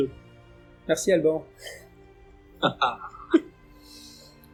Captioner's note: laughs